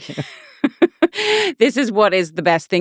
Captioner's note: laughing